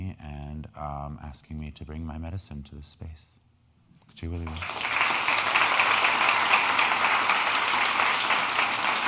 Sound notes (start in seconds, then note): 4.1 speaking in foreign language; 4.3 crowd clapping